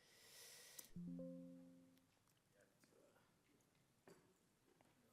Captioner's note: computer chimes